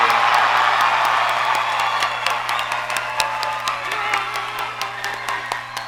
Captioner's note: audience cheers and applauds